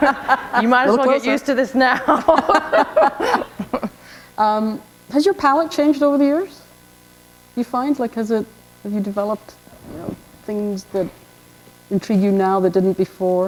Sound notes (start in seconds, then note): 0.2 chuckle; 3.5 laughter